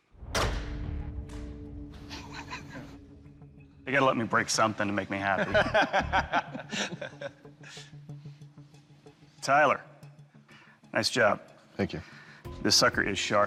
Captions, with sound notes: [LAUGHS] You got to let me break something to make me happy. [LAUGHS] Tyler, nice job. Thank you. This sucker is sharp.